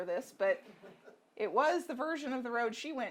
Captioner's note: audience laughing